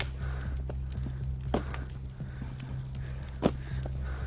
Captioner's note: fire crackling